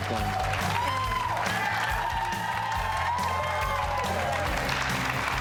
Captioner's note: audience applauding